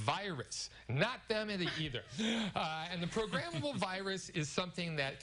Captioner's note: laughter